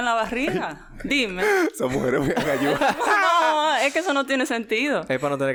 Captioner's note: laughs; laughs